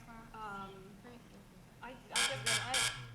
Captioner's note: buzz buzz buzz